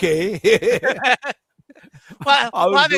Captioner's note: laughter